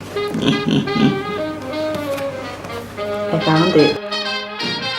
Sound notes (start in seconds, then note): 1.6 in low voice; 2.7 normal Voice